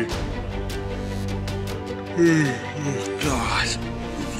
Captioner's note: yawns